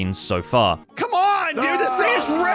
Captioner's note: groans